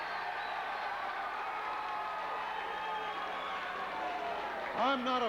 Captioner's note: crowd cheering